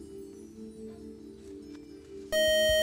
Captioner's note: time-out buzzer